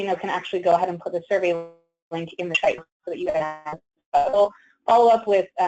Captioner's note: static